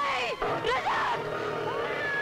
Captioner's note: Baby crying